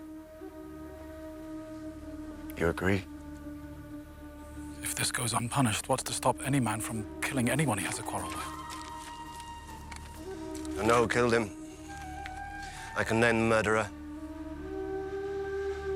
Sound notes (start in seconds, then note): 10.6 footsteps approach